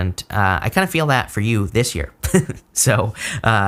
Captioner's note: chuckling